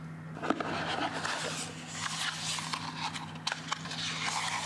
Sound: smooth cardboard sounds

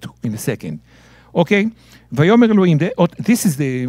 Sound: speaking in Hebrew

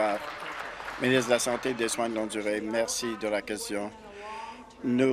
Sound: applause

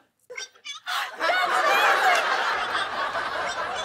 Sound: high-pitched voice; laughter; normal voice

